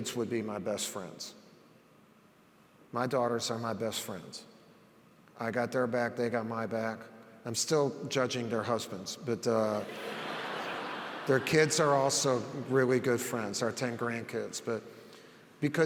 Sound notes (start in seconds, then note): 9.8 audience laughs